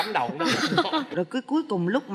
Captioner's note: laughing